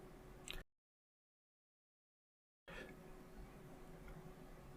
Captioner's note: silence